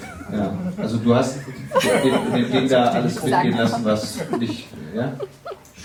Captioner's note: crowd laughing